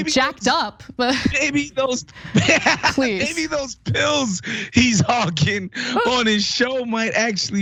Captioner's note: laugh; laugh